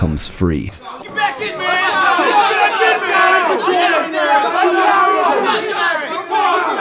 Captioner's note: audience cheering